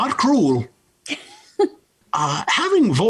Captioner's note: laughs